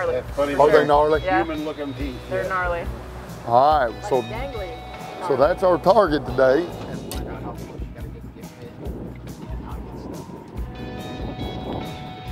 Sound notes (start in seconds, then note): 3.1 upbeat music; 4.8 birds chirp; 6.4 wind blow